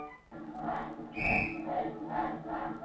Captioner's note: crowd chanting; whistles blows; crowd chanting